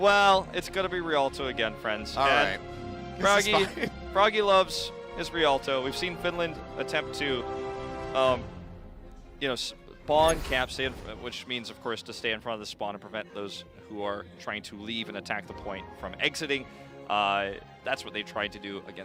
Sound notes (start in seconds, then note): 1.5 laughing